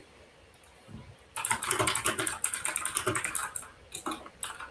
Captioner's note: keyboard clacks